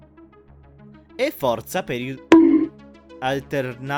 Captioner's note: bonk